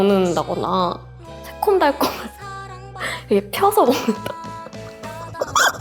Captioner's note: laugh